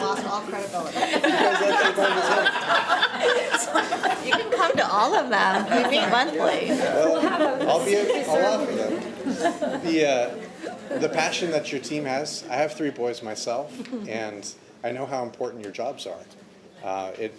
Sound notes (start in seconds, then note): 7.0 audience laughing